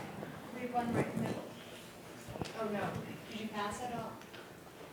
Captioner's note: woman mumbling